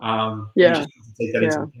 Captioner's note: voice muffled